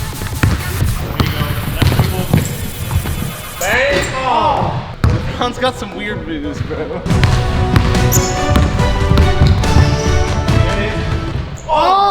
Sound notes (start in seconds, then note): 0.1 ball bounces; 4.5 players groan; 7.0 upbeat orchestral music; 7.7 ball bounces